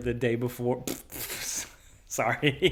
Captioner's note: scoffs